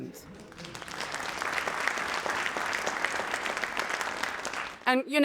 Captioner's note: audience applauding